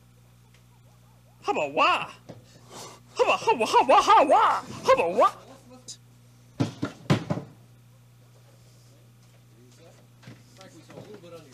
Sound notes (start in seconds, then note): 2.5 gasp